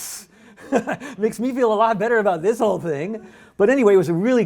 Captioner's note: laughs